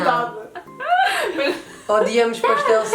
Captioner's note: laughs